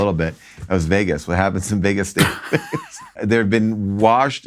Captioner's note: sniffing; laughs